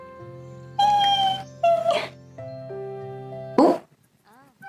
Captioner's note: dolphin sound + clapping